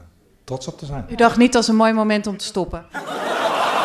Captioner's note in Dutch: gelach